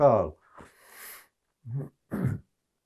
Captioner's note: clears throat